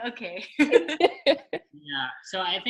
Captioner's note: girls giggling